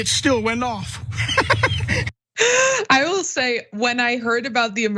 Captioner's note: laugh